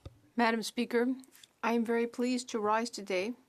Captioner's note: speaking FRENCH